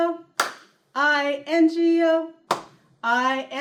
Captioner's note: clap; clap